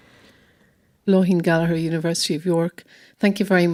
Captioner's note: voiceover